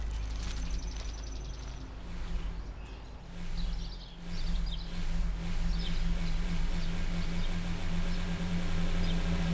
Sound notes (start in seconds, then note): 3.2 birds chirping; 6.5 soft dramatic music